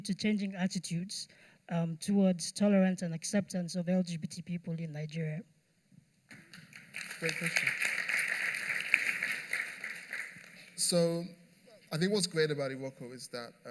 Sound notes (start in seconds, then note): 6.3 applause